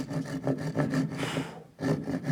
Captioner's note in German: Pusten